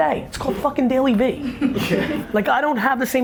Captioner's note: laughing